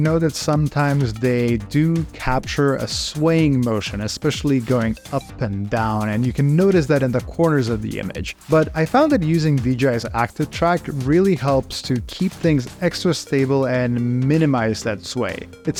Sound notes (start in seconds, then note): none